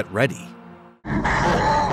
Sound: laughing

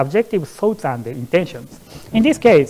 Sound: murmurs

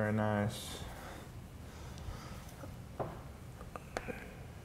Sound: breathing sounds

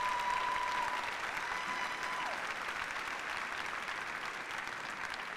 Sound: applause

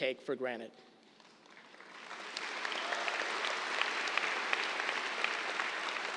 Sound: applause

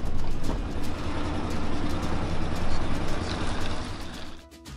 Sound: truck engine chugging

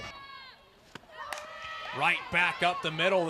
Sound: ball hitting bat

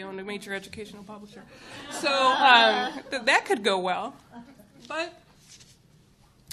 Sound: chuckles

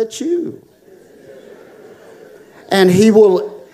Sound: audience responding

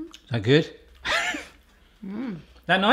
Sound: wheezing laugh

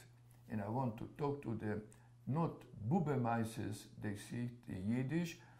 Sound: yiddish

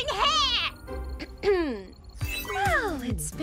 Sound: clears throat

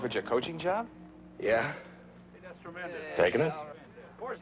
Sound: press chattering

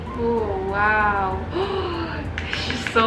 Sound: gasps

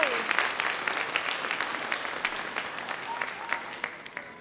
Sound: audience clapping

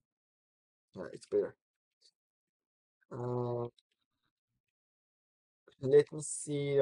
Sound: pause

